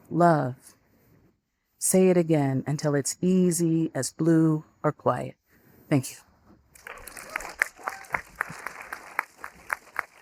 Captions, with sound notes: Love. Say it again until it's easy as blue or quiet." Thank you. (audience applauding)